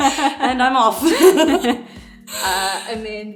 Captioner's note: laughs